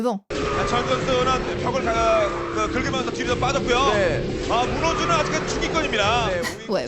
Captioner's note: game noise and Korean voices commenting